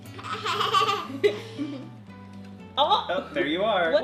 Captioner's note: laughing